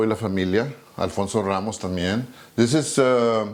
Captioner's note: speaking in Spanish